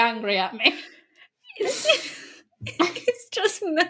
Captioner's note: laughing